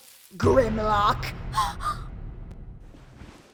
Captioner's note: Yolko gasps